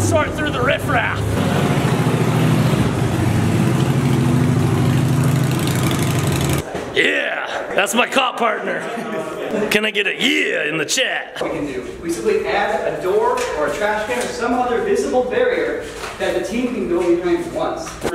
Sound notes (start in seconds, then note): 0.0 loud engine noise; 3.8 engine noise